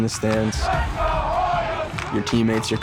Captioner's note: crowd